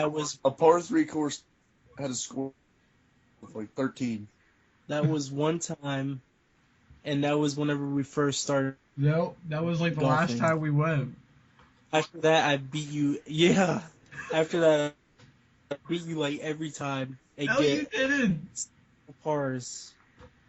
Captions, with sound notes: That was... A par 3 course and had a score of like, 13. That was 1 time, and that was whenever we first started playing. No. That was like the last time we went. I beat you .. YEAH!!!! *laughing* I beat you like every time. No you didn't!